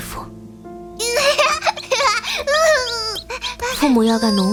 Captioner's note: giggles and laughter